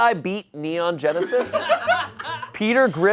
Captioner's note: audience laughing